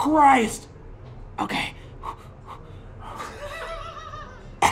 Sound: exhaling; laughing

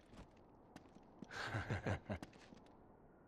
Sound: laughs

